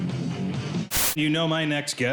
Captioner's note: static